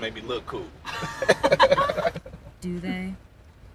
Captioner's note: Downbeat and Jacketman laugh